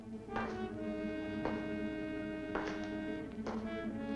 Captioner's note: footsteps tapping